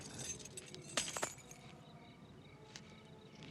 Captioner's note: drops keys